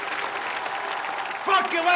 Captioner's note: cheers, applause